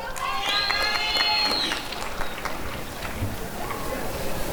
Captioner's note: applause and cheering